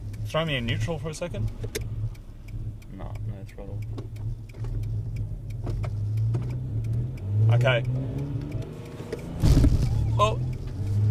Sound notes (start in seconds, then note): 2.2 blinkers clicking; 8.2 engine revs